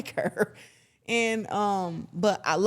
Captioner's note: Claressa chuckles ruefully